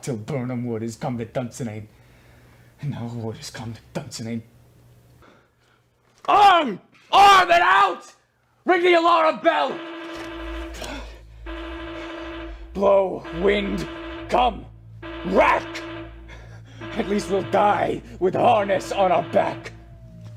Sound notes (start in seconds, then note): 12.1 alarm sounds